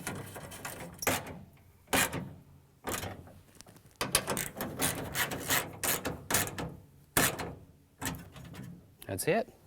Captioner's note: ratcheting